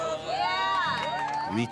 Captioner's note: speaks in foreign language; crowd cheers